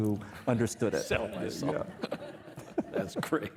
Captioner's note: laughing